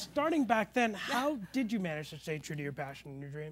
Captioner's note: laughter